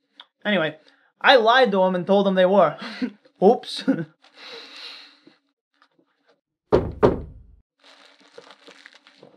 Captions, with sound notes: Anyway. I lied to him and told him they were [CHUCKLES] Oops. [KNOCK KNOCK]